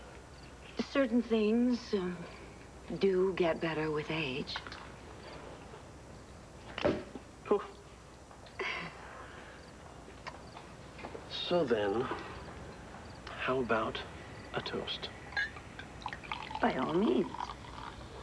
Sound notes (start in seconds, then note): 8.3 cork pops